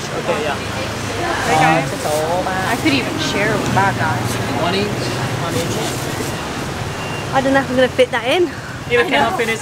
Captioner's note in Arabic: الثرثرة الخلفية